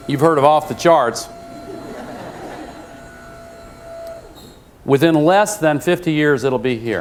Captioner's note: laugh